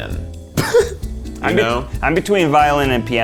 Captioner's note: laughs